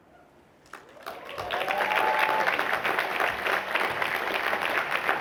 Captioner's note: cheering